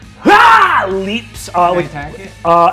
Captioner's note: mimics roar